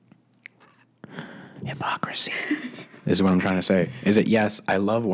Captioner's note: whispers